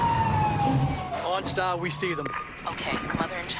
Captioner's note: SFX: bikes passing; SFX: fire truck siren